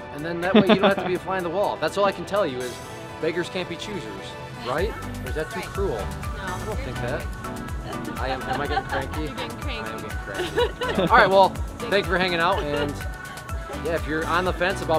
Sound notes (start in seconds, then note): 10.2 laughing